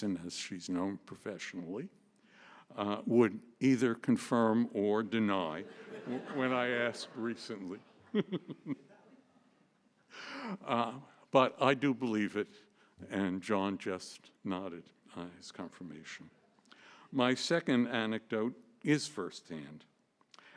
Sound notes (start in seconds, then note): 8.1 laughter